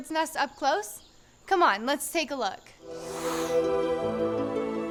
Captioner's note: air whooshing; inspiring orchestral music; haunting choir music